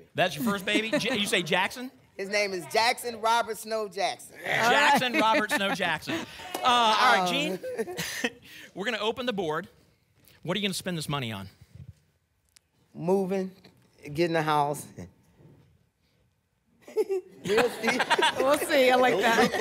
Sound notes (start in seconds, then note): 7.4 laugh; 16.9 laughs